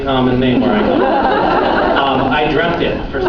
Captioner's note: laughs